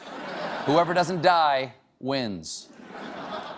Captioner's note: laughter